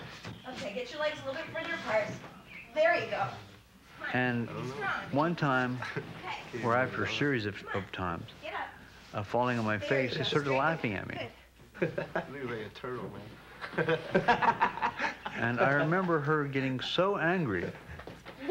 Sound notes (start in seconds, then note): 11.8 laughs; 13.6 laughter